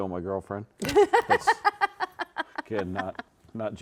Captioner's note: laughing